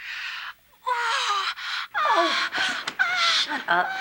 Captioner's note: passionate moaning